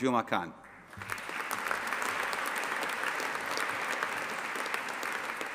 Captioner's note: audience applauding